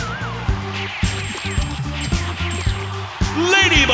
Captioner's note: ringing